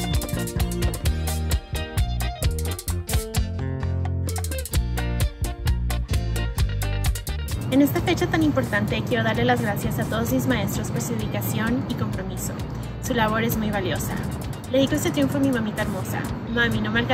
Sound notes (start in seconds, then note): 7.7 speaks in foreign language